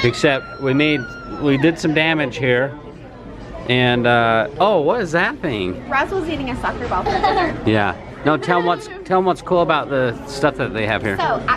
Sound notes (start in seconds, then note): 8.0 laughs